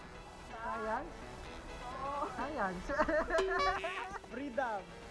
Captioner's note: laughs